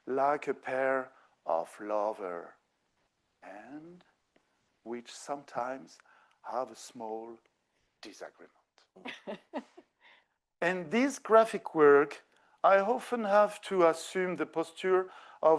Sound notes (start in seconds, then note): 9.0 laughs